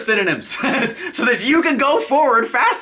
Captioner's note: chuckles